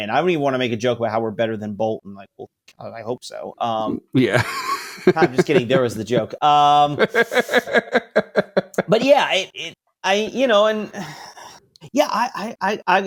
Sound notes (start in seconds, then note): 4.2 laughs; 6.7 laughing